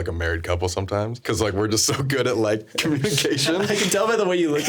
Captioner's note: laughing